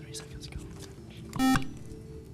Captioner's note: buzzer